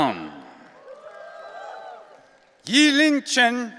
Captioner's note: audience cheering